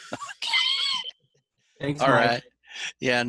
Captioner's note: laughs